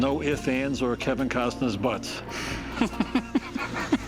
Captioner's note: laughs